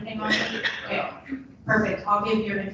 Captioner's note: coughing drowns out speaker